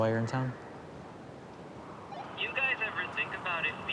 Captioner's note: phone bleeping